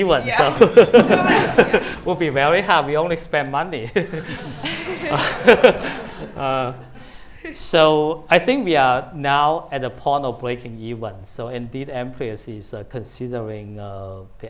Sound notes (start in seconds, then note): 0.0 laughing; 3.9 laughter; 4.0 chuckles